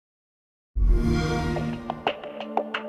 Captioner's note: xbox sound